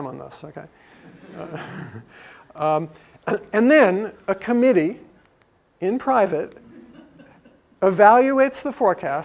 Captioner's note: laugh